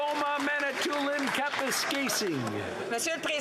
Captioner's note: some Applause